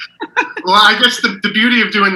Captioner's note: laughs